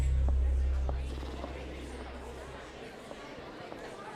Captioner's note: people talking; footsteps